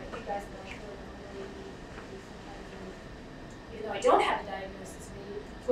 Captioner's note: speaking away from mic